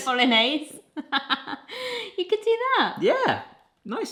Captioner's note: laughs